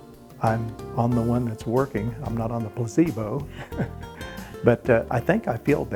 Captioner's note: laughs